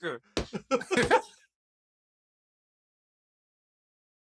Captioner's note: laughter